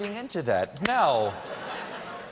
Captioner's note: laughter